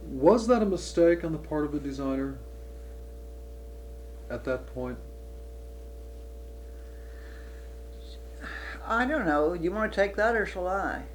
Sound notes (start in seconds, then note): none